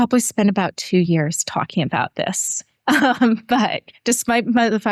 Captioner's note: laughter